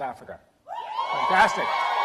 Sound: applause

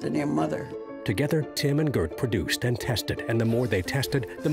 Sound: voiceover

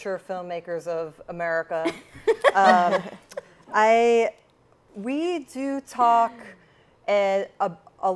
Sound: laughs

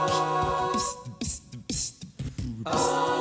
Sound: beatboxing

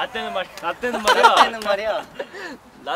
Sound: laughing

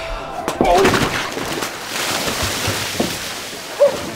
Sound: water splashing

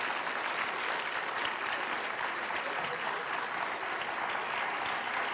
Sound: applause continues

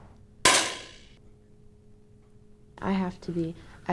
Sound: small shot fired

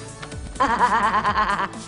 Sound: laughs

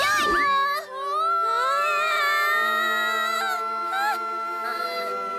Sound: both exclaiming

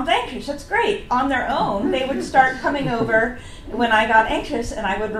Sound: audience laughs

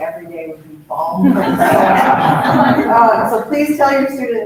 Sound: both laughs

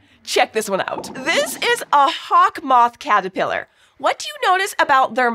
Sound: squeaks squeaking

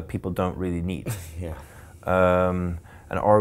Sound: laughing

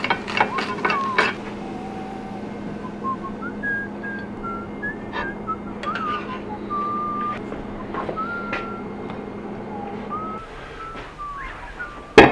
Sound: happy whistling continues

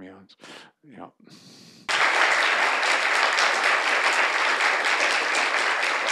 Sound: applause

